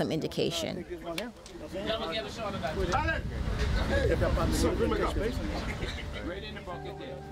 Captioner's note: people talking to each other in Bahamian Creole